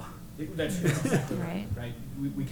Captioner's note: laughs